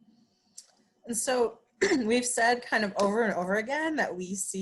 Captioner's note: clears throat